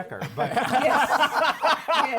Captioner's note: laughter